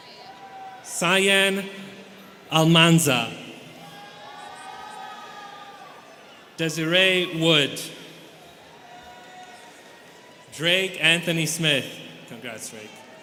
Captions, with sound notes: Sahian Almanza. (students cheering) Desiree Wood. (students cheering) Drake Anthony Smith. Congrats, Drake.